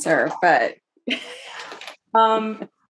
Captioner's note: laughs